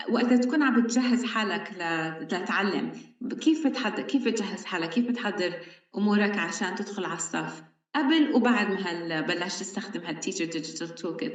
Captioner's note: speaking arabic